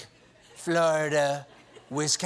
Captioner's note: laughter